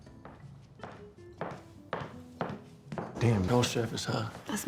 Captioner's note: heels clack